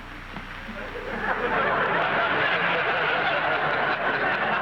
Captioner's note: audience laughing